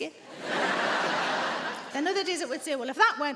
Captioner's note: audience laughing